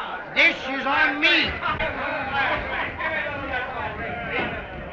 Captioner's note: chattering